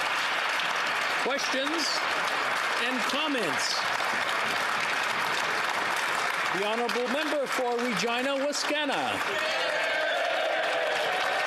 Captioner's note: some Applause